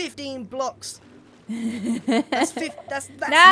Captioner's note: laughs